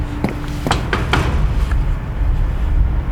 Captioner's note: knocking